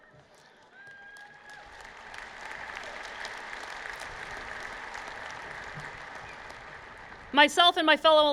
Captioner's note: applause